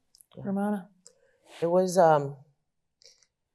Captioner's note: none